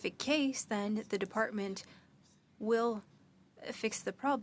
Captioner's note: speaking French